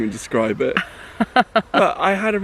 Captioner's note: chuckles